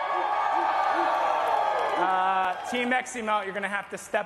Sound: applause

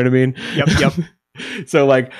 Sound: chuckles

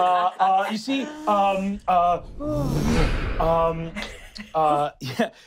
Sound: wooshing

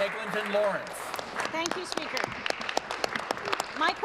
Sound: applause

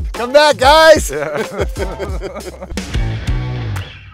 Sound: laughter

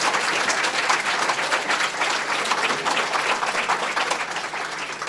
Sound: applause

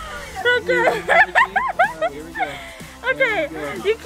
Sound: laughs

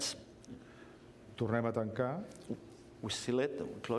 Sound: speaking catalan

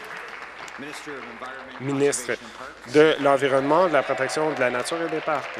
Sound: applause

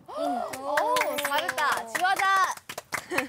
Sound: seal clap

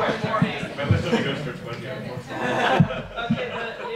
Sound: audience laughs

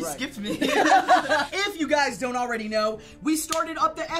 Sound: all laugh

